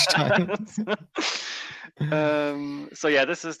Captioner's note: both laugh